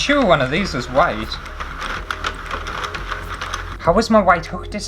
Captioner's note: plastic Rattling